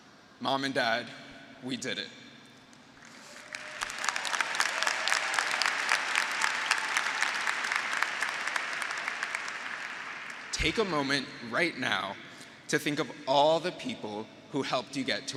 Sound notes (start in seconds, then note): 3.0 graduates applauding; 3.2 graduates cheering